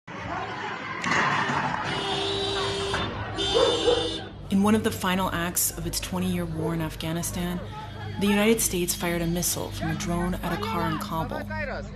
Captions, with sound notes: [explosion] In one of the final acts of its 20-year war in Afghanistan, the United States fired a missile from a drone at a car in Kabul.